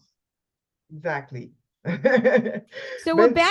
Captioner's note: laughs